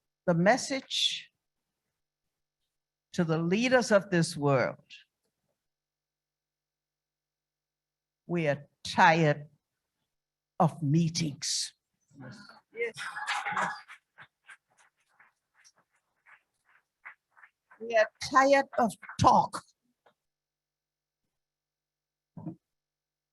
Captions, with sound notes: the message to the leaders of this world, we are tired of meetings. - Yes. - Yes. (audience applauds) - We are tired of talk.